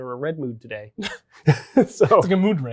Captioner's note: both chuckle